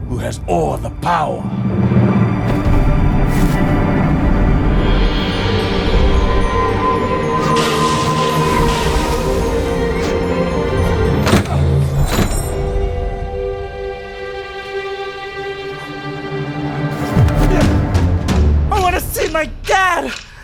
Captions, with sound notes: who has all the power. (EPIC MUSIC) (WHISTLING, SPLASHING) (GRUNTS) - I wanna see my dad!